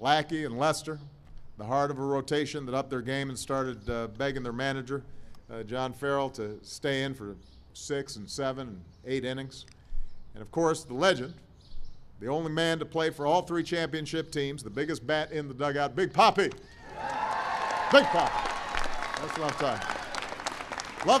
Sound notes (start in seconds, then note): 16.8 applause